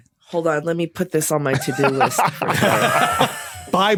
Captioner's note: laugh